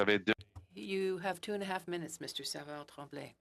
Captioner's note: speaking French